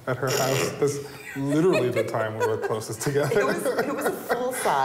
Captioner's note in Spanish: risas